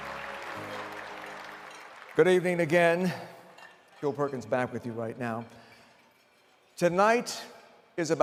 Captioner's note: applause